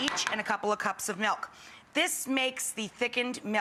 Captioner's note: none